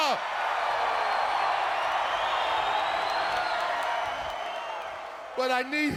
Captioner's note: crowd cheering